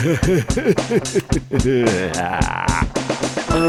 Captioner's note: choking with joy